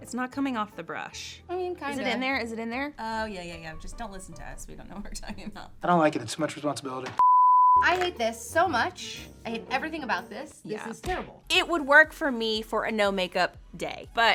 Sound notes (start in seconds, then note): 7.2 beep